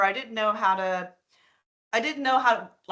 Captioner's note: none